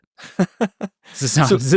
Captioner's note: laughing